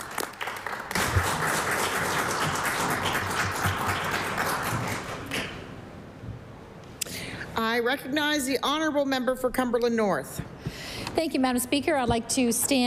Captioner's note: applause